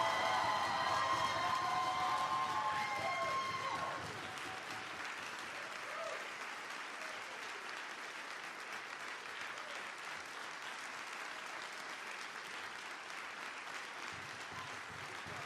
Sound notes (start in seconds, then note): 0.0 applause